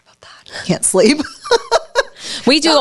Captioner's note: laughs